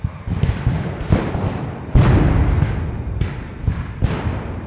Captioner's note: guns fires